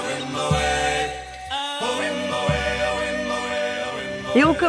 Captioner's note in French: chant